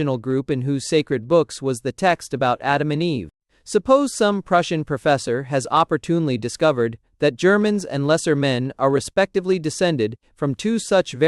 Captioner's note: German